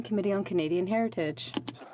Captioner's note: speaking French